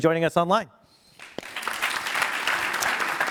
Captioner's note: applause